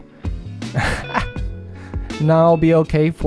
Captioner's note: laughs